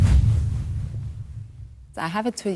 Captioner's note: percussive whoosh